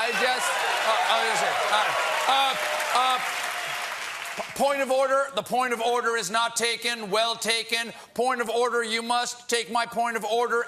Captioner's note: cheers and applause